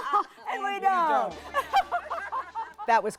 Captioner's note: laughing